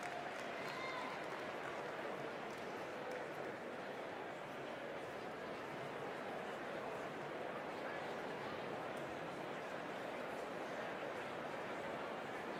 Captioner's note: applause